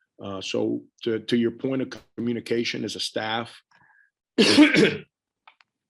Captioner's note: coughs